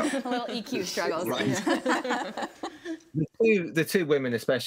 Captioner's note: group laughs